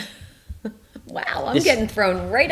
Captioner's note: laughs